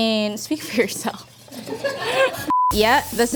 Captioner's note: laughing